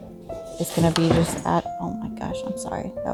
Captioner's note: crashing noises